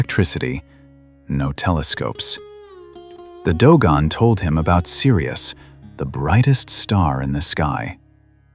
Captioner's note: breath